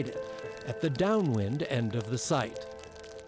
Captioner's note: fire crackles